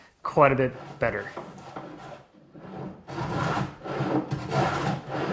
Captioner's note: sander scrapes